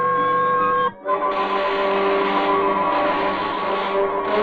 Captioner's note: electricity crackling